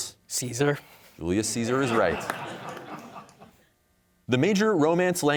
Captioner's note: audience laughing